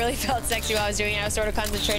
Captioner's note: camera snaps